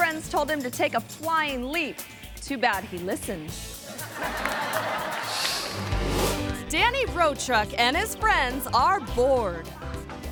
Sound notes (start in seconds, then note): 3.8 audience laughing; 5.4 screen whooshes